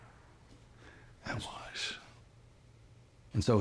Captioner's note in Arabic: لهجة اسكتلندية